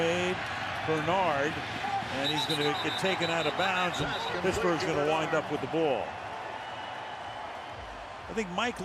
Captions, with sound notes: Catch made. Bernard. [whistles] And he's going to get taken out of bounds, and Pittsburgh's going to wind up with the ball.